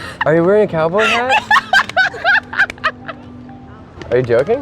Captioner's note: laughing